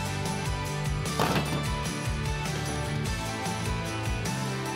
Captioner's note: bricks banging